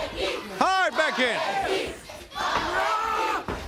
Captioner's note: crowd cheering